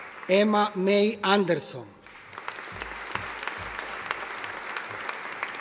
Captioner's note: audience applauding